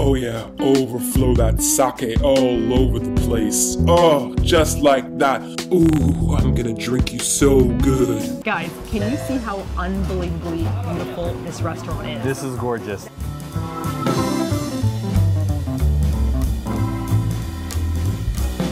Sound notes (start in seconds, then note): 8.2 normal voice; 15.0 jazz music